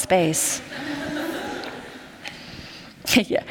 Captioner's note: laughter